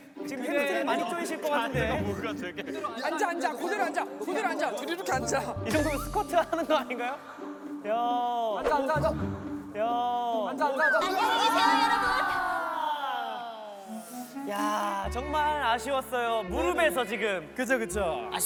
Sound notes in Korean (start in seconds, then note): 13.8 쓰읍